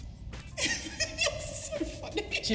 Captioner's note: laughing